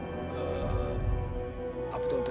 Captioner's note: chinese colleague hesitates